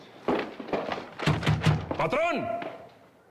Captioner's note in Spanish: Toques en la puerta